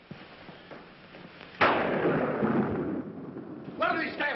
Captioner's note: thunder